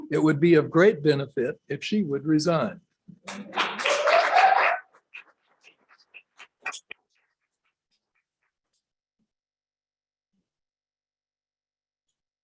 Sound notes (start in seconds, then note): 3.2 applause